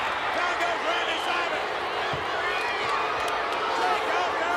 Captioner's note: crowd booing